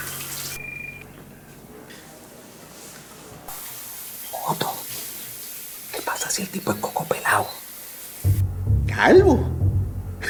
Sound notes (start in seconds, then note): 0.6 ring tone; 4.2 whispering